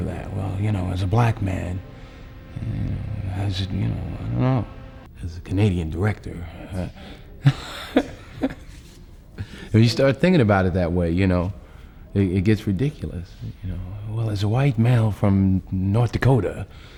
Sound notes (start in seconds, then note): 7.0 laughs